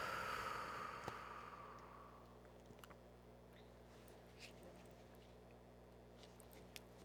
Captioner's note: breathing